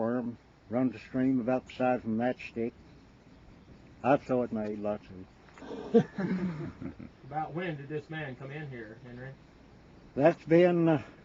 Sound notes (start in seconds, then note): 5.6 men chuckle